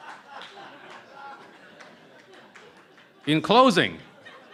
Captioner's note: laughter